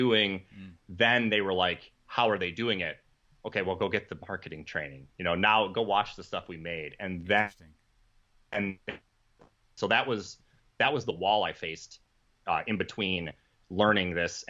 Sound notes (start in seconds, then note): 7.1 audio cutting out